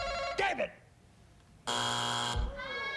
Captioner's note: buzzer